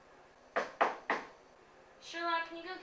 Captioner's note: knocking on door